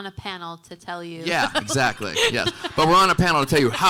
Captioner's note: audience laughing